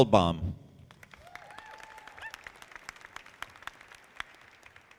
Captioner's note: audience applauding